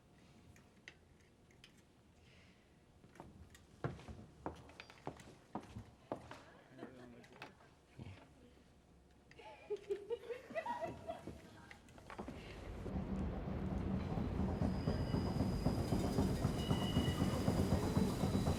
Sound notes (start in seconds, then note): 9.3 women laughing; 12.6 drumbeats